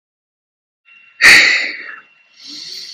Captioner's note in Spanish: Néstor suspira